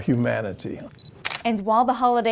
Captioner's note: camera shutter beeps and clicks